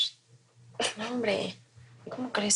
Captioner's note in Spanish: Silbido